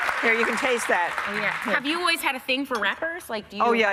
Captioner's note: applause